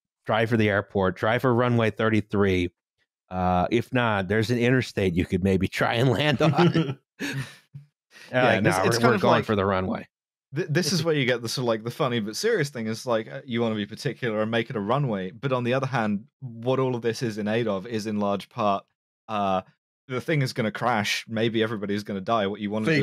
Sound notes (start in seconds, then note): 6.0 laughing